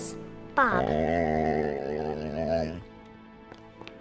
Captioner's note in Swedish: Bob gnäller